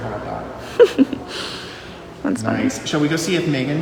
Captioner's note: laughs